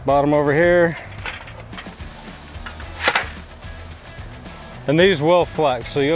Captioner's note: metallic squeak and clang